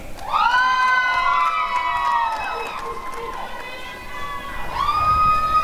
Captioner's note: applause and cheering